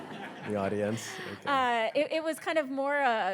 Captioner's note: audience chuckles